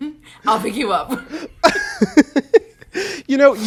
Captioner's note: both laugh